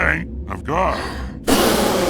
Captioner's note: Acoleyet gasps; Acoleyet blows air